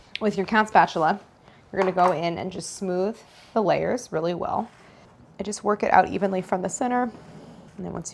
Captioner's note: none